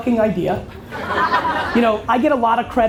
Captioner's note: audience laughter